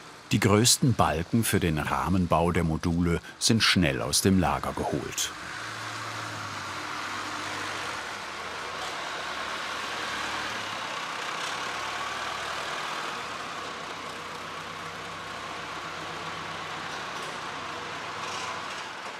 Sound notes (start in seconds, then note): 6.5 motor humming